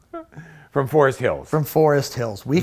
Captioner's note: chuckles